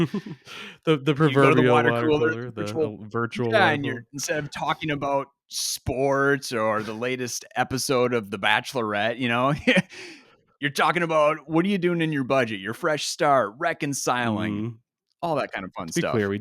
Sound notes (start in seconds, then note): 0.0 laughs; 9.5 chuckles